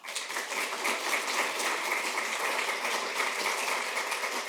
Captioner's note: applause